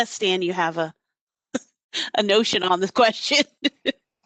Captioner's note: laughter